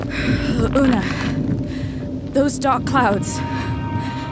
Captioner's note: climbing breath